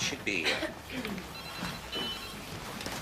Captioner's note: clearing throat